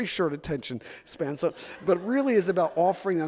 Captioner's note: audience laughs